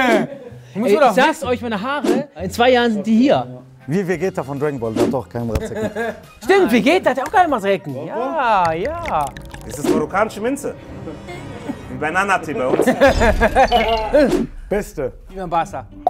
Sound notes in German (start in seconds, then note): 13.0 Schlucken, Lachen